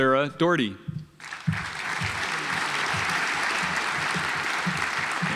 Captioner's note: audience applauds